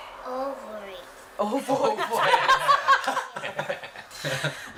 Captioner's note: laughter